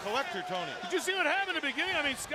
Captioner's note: crowd chatter